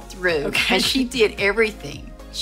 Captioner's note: chuckles